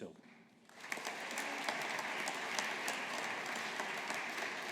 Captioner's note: audience applauding